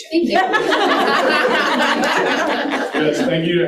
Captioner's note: participants laughing